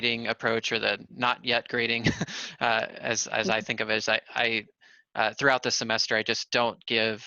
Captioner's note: laughter